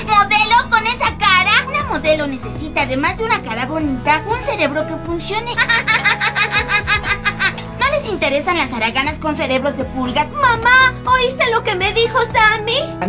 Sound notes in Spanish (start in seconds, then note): 5.5 risas